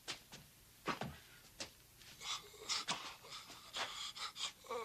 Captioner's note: Bosk moaning